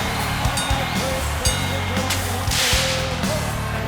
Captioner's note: bell rings